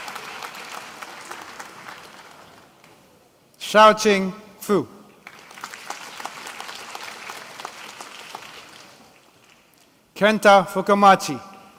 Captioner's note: applause